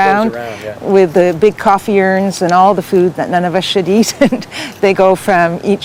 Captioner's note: laughs